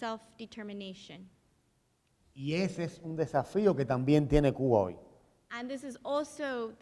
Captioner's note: speaking in Spanish